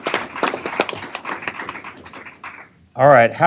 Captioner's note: applause